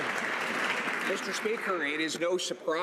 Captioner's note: some Applause